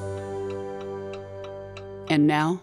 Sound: clock ticking

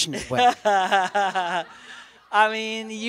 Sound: laughter

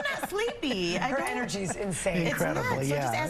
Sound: laughter

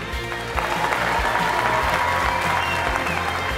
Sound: crowd cheers

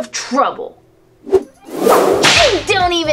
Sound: whip cracks

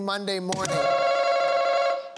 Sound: answer button rings

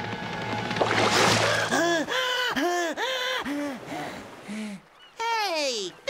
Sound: gasping

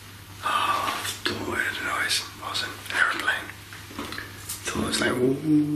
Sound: sighs

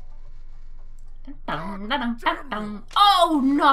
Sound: mimics background music

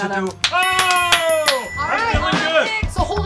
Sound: clapping; dinging

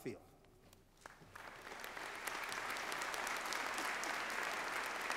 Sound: applause

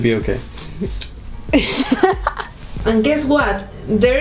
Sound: laughs

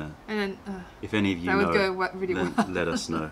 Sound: laughter

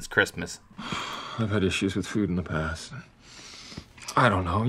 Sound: sighs

